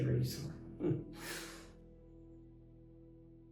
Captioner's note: laughs